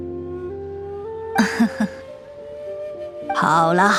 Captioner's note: chuckles